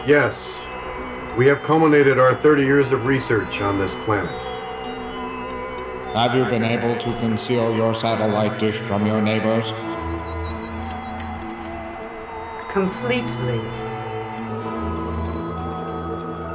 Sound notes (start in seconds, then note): 7.0 robotic Voice; 16.3 creepy sci-fi music; 16.3 static buzzing